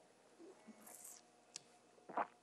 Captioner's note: sucking, smacks lips; gulps